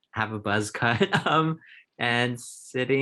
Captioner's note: chuckles